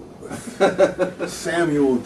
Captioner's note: laughing